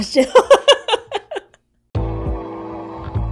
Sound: laughs; upbeat music

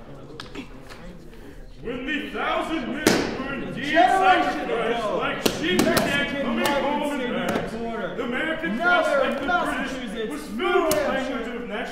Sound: musicians speaking loudly

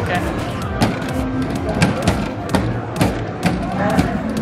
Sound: hammer smacking

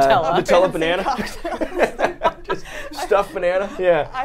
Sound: both laughing

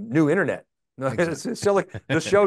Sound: both chuckling

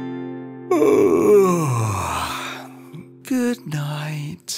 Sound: yawning

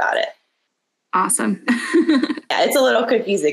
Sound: laughs

